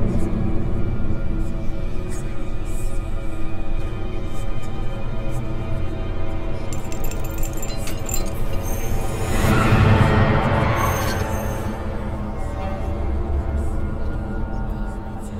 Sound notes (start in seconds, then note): 6.7 chains rattling; 9.7 dramatic music; 9.7 eerie whispering